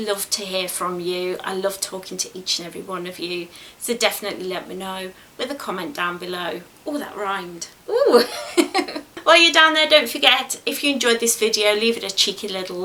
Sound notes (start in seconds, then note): 7.9 giggles